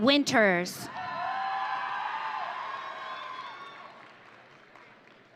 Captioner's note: audience cheering